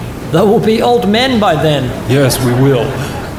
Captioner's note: audience laughs